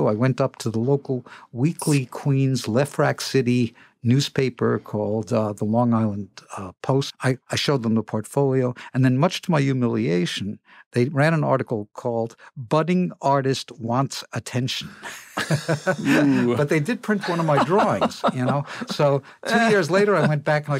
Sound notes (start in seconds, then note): 17.0 laughter